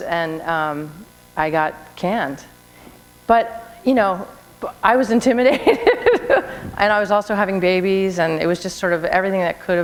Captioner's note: laughter